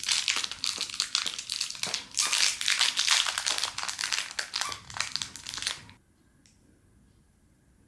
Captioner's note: feat. Dog squeaking toy sound 😅